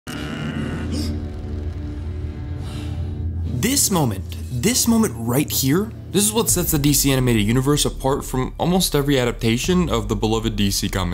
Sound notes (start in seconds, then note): 0.0 grunting; 0.1 gasps; 2.2 exhales